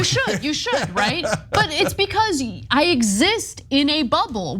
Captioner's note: laugh